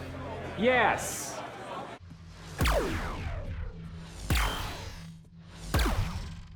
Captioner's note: system whirs